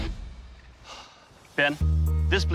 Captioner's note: exhales